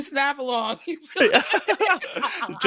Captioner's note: both laughing